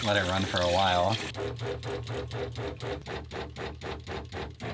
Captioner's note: whirring